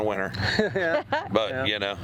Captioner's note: laughing